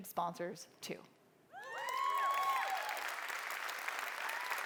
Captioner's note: applause